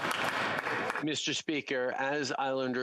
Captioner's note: applause